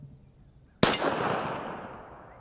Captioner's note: pistol fires